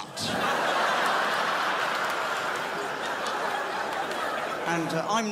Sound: crowd laughs

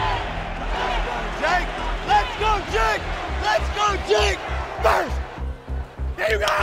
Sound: Crowd chanting "Let's go, Jake"

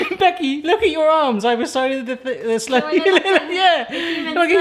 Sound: laughs

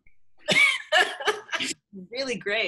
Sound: laughs

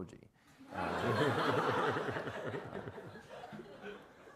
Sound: everyone laughs

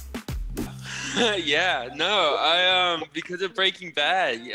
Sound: whooshing; laughs

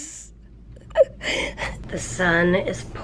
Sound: chuckling

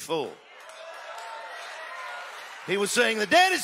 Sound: audience exclaiming and applauding

